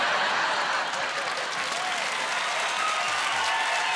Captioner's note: applauding